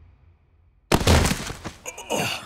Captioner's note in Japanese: 倒れた音